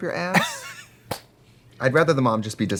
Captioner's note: Katya laughs